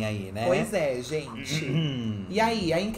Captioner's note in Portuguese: pigarreia